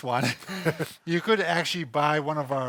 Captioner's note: laughing